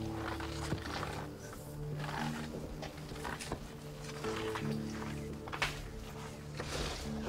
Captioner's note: suspenseful music continues; footsteps thud